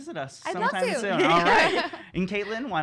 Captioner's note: laughs